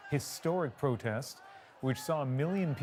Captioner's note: chants